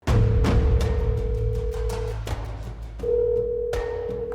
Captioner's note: phone ringing